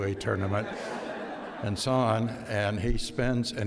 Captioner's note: audience laughs